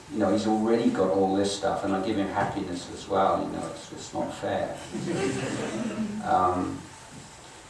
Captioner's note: audience chuckles; audience laughing